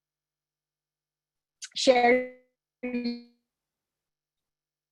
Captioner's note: audio distorts